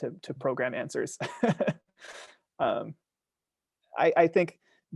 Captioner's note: laughing